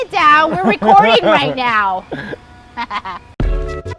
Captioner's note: laughing; upbeat music